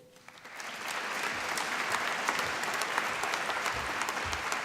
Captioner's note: applause